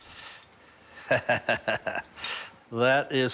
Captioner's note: laughs